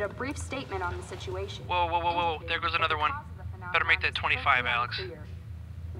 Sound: phone

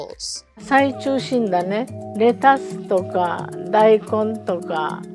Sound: speaking in foreign language

